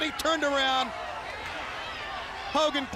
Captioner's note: crowd cheering